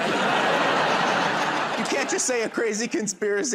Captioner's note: laughter